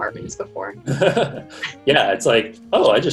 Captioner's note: chuckles